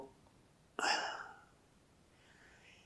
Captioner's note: sighing